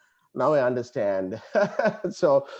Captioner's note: laughs